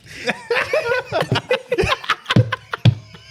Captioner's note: laughing